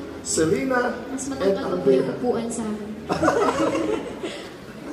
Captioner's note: laugh